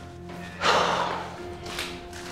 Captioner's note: sigh